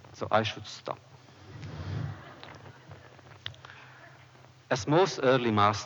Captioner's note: laughter